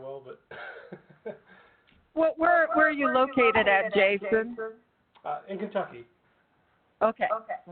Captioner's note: laugh